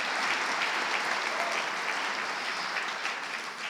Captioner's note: audience applauding